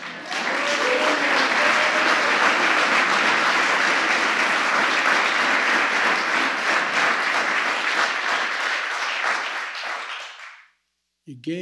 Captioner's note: applause